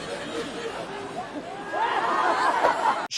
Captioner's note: they’re still laughing